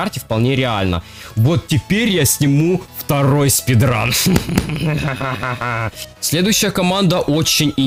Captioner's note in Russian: смех